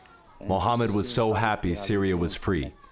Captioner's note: through translator